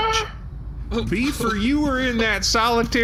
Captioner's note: Shae sobs